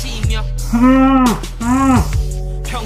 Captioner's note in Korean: 으음~ 으음~!